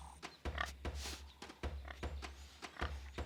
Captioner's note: grunting